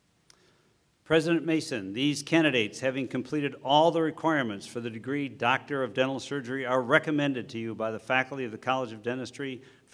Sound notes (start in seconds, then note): 0.9 voiceover